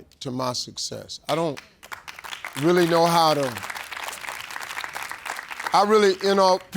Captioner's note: audience clapping